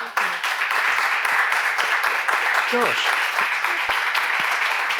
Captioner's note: audience applauds